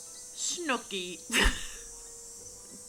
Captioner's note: laughs